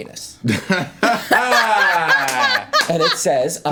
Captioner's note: laughter